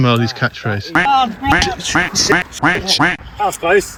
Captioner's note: quack